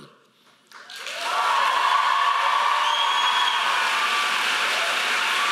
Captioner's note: audience applauding